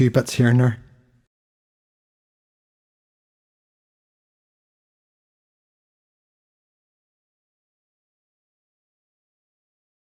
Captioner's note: silence